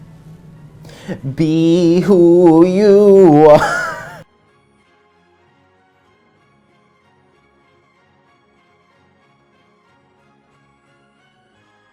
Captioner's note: laugh